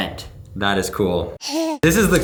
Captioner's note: baby cooing